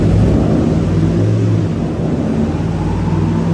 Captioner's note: car engine revving